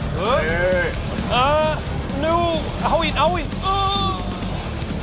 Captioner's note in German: Gequälter Laut